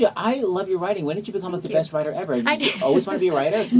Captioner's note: laughs